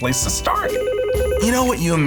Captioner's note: phone ringing